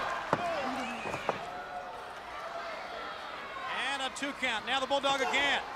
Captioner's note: crowd chatter